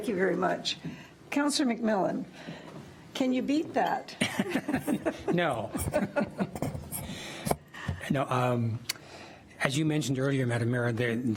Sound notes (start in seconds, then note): 4.4 attendees laugh; 6.8 chuckles